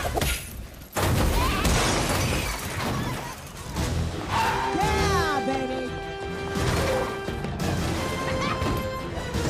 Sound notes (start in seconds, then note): 1.6 crashing; 4.2 tires screech